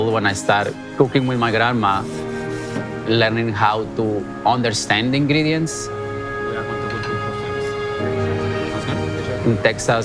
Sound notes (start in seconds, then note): 1.1 brush shuffling